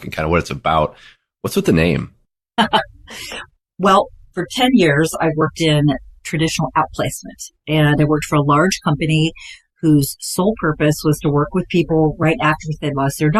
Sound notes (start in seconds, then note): 2.6 chuckles